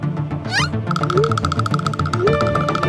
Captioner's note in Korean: 부르르르르